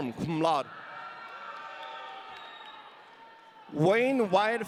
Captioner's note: audience cheering